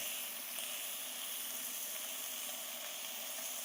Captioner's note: food sizzling